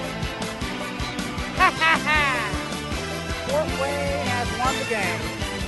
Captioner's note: laughs